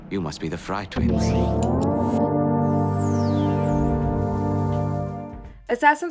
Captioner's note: electronic sound effects